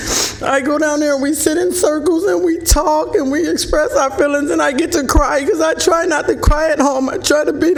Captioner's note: speaking emotionally